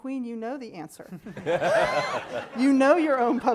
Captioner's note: laughing